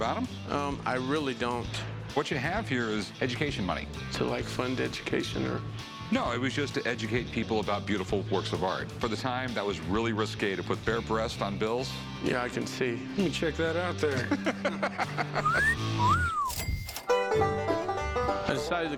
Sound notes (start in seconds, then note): 14.2 laughs; 15.4 whistling; 16.3 cash register chiming; 16.9 country folk music